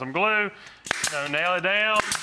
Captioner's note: nail gun firing